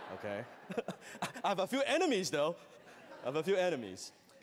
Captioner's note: chuckles